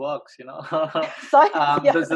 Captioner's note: laughs